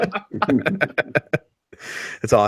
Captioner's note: everyone laughs